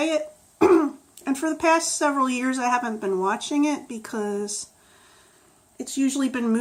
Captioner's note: clears throat